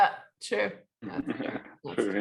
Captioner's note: laughs